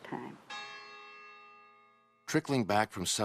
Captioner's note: church bells